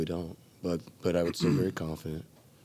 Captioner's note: Pete carroll coughing